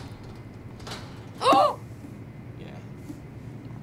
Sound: gasps

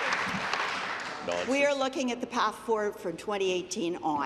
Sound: applause

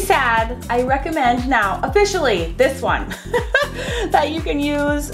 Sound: laughs

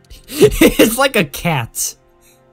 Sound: chuckle

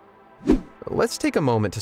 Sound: video whooshing

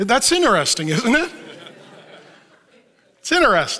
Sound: audience laughs

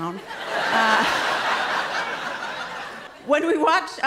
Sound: laughter

